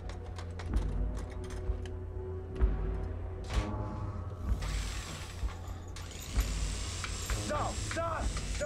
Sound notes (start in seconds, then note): 4.4 drill whirring